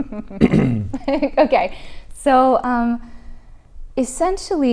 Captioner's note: chuckles